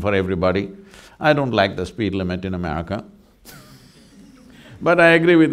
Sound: laughs

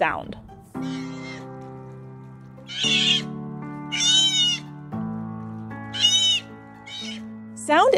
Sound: background music; sea otter vocalizing

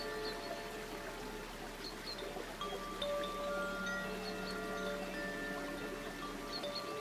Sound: water babbling; bells lightly chiming

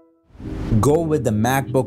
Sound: whoosh sound

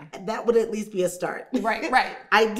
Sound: laughing

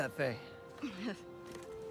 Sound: laugh

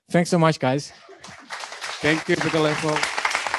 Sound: clapping

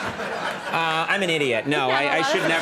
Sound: audience laughing

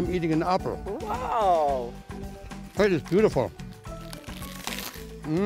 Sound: biting sound

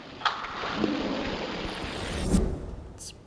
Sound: ghostly Voice; tense music

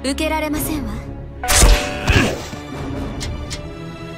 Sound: grunts in pain upon rejection

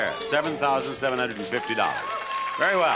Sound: audience applauds

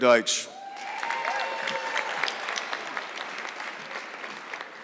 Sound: audience clapping

